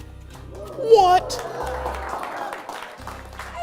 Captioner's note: applause